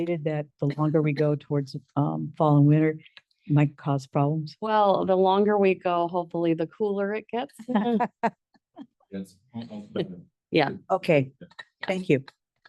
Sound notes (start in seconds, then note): 7.6 group laughs